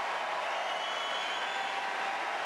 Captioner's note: applause